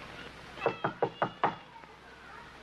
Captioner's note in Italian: bussa alla porta